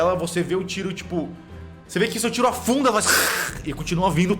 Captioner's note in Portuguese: grunhido de aranha